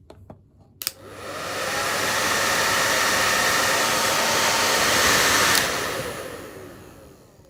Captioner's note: hairdryer